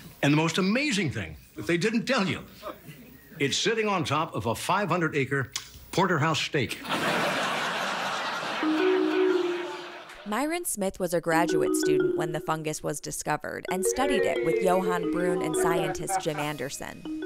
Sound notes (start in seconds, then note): 6.8 audience laughs; 8.5 whimsical music